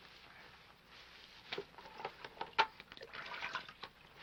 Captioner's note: none